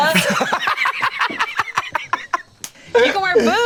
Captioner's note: laughs